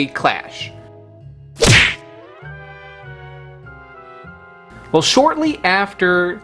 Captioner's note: objects smashing